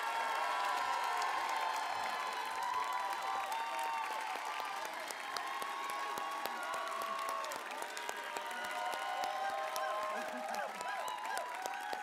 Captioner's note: applause; cheering